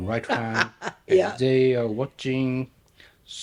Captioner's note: laughing